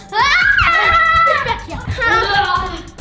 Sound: screams; Jester screams

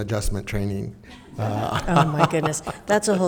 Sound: all laughing

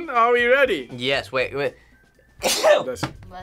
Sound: sneezes

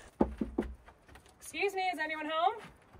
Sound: knocks on door

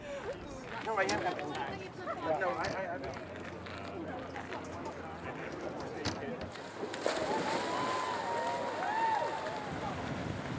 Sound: people talking; splashing water and cheering; clapping and more cheering

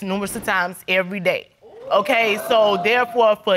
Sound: audience exclaiming

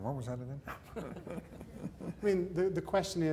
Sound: laughter

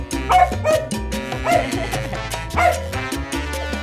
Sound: laughter

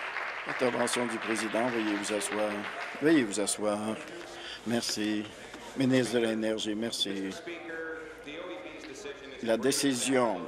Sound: applause

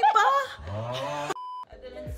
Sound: huh sound

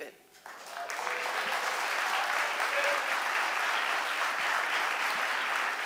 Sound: audience applauding

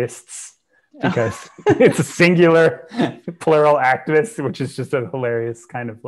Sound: laughs

